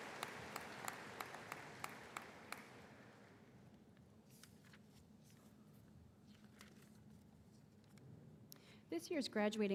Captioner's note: applause